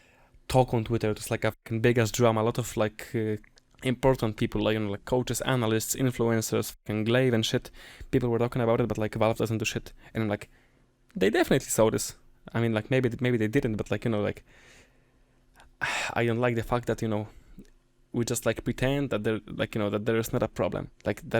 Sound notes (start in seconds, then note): 15.8 sigh